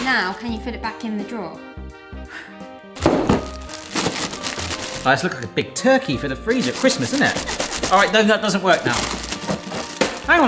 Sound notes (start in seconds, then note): 2.2 light jazz music; 3.0 drawer thudding